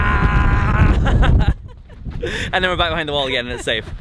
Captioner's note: laughing